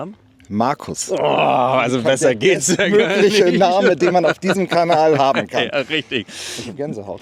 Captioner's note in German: gelächter